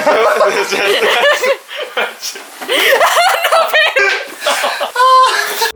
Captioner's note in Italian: suoni vari di risate e sofferenze